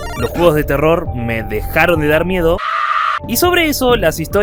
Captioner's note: scream